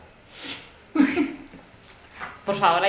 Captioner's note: evil laugh